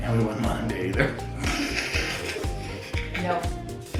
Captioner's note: laughing